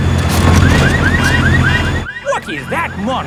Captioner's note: car alarms blaring